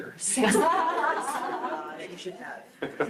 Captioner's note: group laughs